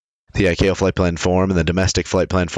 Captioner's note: voice-Over Of Man